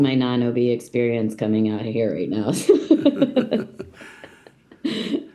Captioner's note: laughs